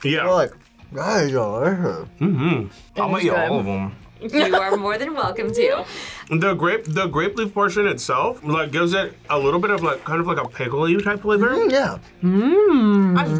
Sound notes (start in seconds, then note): 4.3 laughs